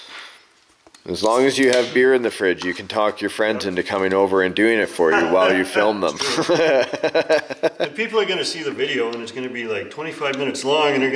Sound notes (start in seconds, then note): 6.1 laughs